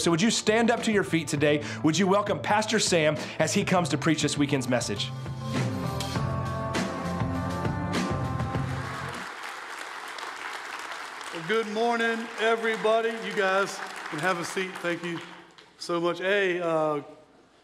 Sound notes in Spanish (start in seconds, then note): 5.9 música optimista; 8.5 aplausos